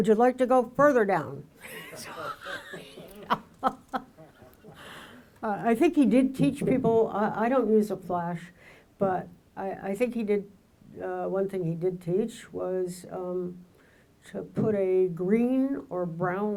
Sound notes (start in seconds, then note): 1.6 laughing; 1.6 audience laughing